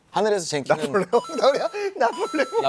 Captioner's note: laughing; laughing as well